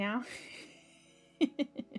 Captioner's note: laughs